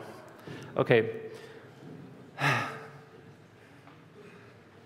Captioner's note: sigh